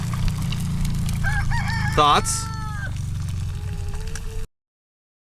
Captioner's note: hen crowing